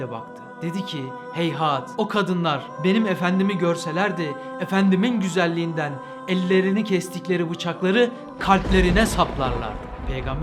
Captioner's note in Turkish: Gökgürültüsü sesi